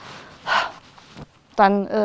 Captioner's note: relieved sigh